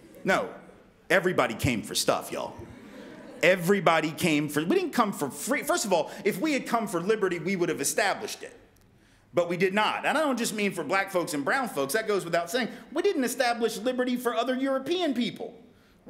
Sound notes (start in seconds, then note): 2.3 audience Chuckles